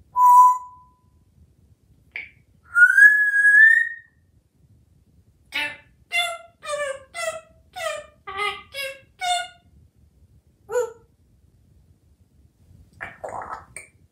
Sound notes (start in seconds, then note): 0.1 whistle; 2.7 whistle; 5.5 singing; 12.9 drinking water sound